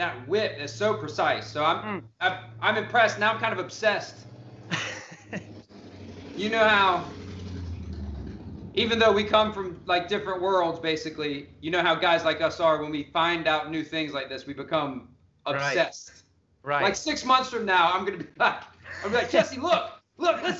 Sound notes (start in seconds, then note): 4.6 laughs